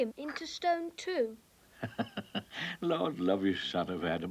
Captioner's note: chuckles